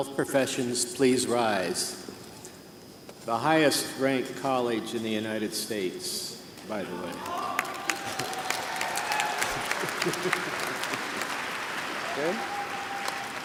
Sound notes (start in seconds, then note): 7.1 applause